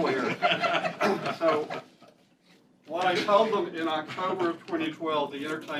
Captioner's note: laughter